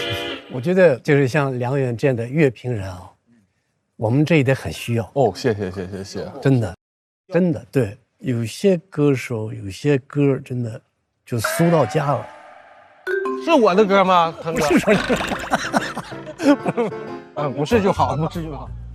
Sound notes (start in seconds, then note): 14.5 panicking